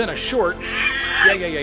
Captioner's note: angry ape noises